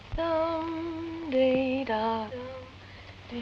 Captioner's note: Tibby humming